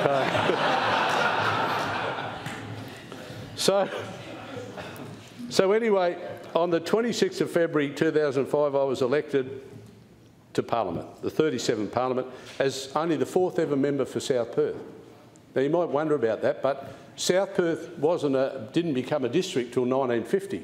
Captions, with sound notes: for Vic Park? [Laughter] So anyway on the 26th of February 2005, I was elected to Parliament, the thirty-seventh Parliament, as only the fourth ever member for South Perth. Now you might wonder about that, but South Perth wasn’t a—didn’t become a district until 1950.